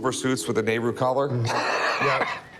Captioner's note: laughs